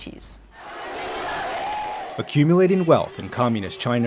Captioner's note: chanting in foreign language